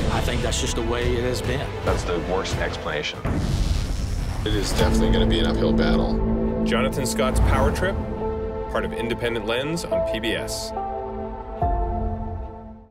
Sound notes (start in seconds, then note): 3.2 thunder bangs; 3.3 electricity sizzles; 11.2 gentle music